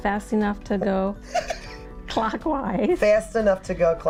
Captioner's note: laughing